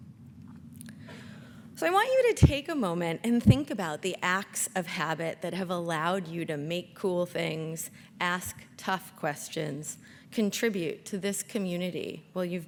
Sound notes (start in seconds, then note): none